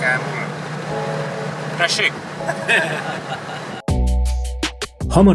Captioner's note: laughing